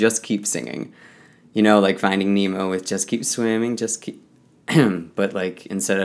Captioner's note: coughs